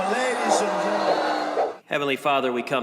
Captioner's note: crowd booing